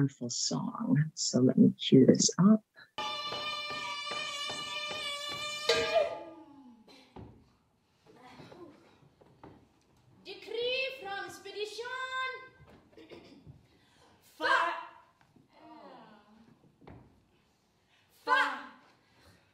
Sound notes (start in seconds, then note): 3.0 metal bangs; 3.8 actor shouts